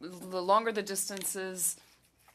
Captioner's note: speaking French